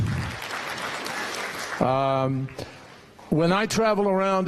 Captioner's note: applause